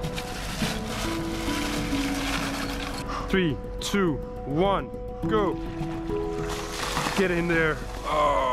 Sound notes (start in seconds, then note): 2.0 ice sloshes in water